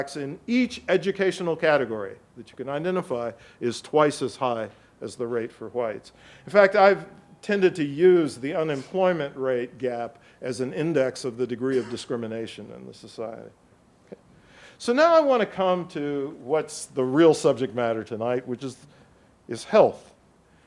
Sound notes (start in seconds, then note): 11.6 audience member coughs